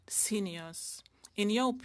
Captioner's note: speaking French